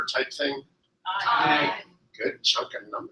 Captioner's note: multiple voices